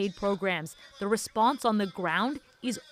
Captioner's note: speaking alternate language